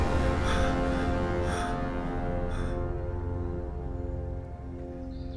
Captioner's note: breathing heavily in shock